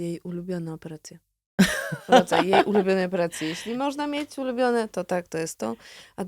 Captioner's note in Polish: śmiech